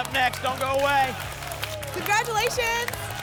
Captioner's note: tickets shuffling